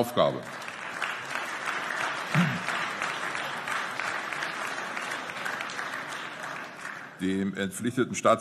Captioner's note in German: Beifall